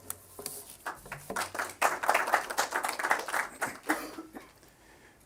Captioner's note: applause